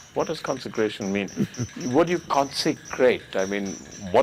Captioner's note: Sadhguru Laughs